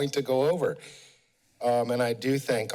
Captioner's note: pause